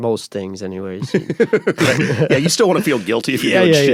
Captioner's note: laughs